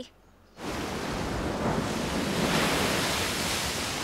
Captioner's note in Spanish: olas rompiendo